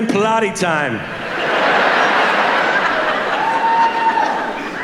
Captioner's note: audience laughing